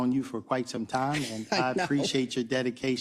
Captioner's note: laugh